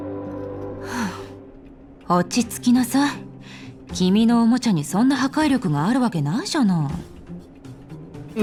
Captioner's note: sigh